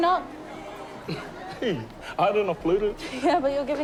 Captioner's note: chuckles